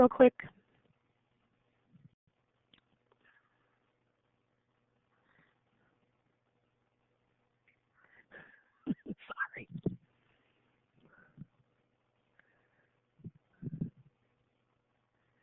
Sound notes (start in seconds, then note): 6.4 whispers sorry